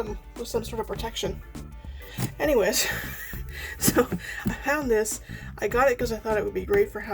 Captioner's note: laughs